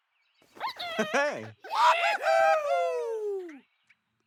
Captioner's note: cheering